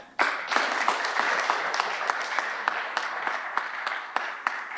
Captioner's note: audience applauding